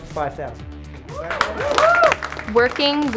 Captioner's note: cheering